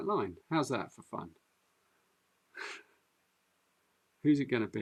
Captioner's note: chuckles